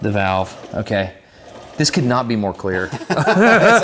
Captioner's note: both laugh